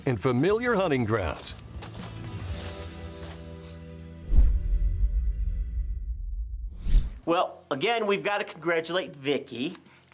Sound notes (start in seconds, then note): 4.2 logo whooshes